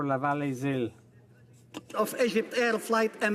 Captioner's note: speaking French